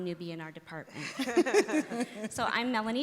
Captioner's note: laughing